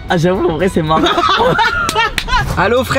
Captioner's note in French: rires